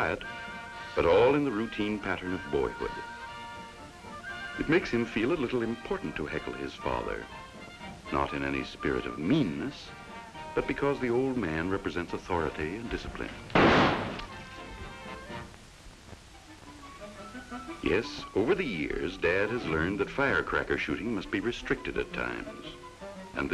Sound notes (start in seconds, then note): 13.5 fire cracker explodes under a tin can